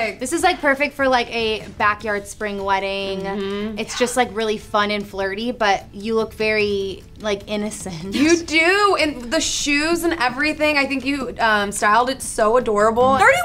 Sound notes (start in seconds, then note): 8.1 giggles